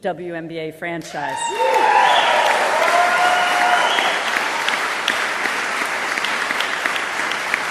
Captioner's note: applause